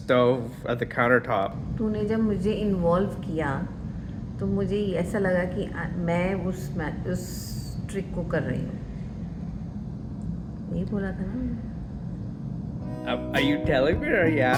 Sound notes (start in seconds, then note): 3.9 in Hindi